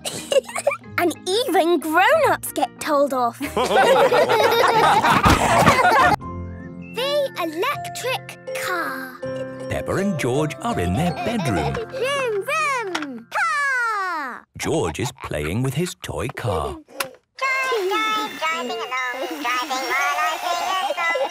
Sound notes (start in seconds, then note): 3.4 all laughing; 17.4 toy car playing song